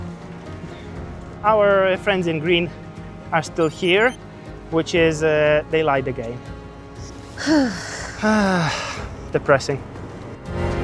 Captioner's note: sighs and gasps